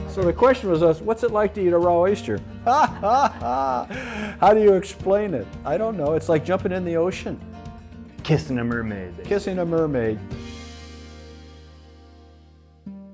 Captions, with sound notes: - So the question what's it like to eat a raw oyster? (laughing) How do you explain it? I don't know, it's like jumping in the ocean. - Kissing a mermaid. - Kissing a mermaid.